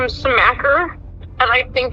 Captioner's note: on phone